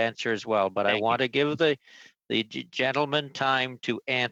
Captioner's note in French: voix de l'interprète